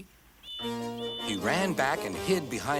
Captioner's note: toot toot